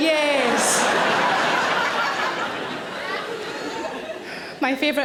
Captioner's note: audience laughing